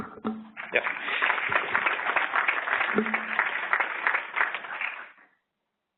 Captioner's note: applause